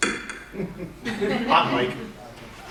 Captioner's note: giggles